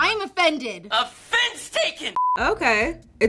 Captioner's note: beeping